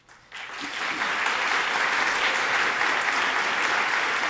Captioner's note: audience applauding